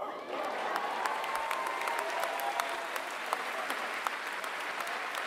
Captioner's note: applause